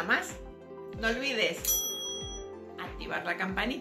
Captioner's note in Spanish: sonido de timbre: riiinggg